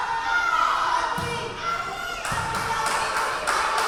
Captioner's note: yelling